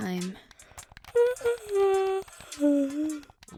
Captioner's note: yawn